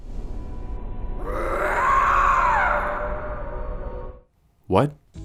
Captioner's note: Not-at-all scary roar from Lisa